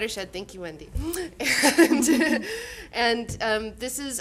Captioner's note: laughing